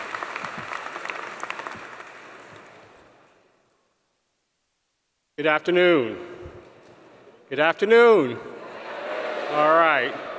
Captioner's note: applause